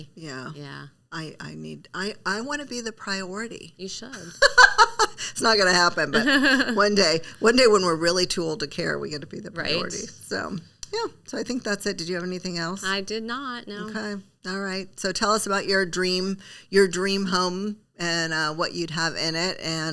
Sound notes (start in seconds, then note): 5.9 laughs